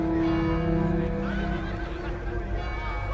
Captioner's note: bell tolling